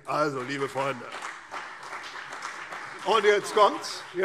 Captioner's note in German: Beifall CDU und BÜNDNIS 90/DIE GRÜNEN